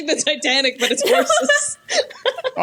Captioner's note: laughs